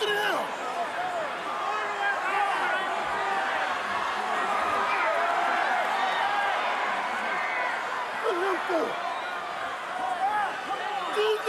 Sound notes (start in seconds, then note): 4.7 audience cheering